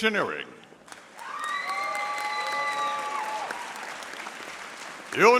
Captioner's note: audience applauding